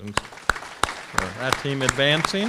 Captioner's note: audience clapping